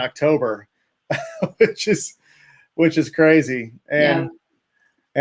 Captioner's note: laughs